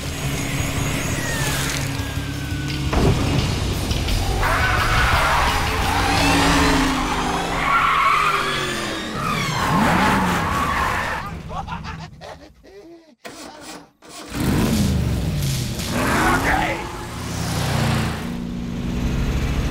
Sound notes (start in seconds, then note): 4.3 screaming; 7.2 tires screeching; 11.0 laughing